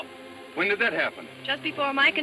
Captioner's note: speaking in Spanish